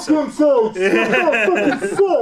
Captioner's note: all laughing loudly; imitates voices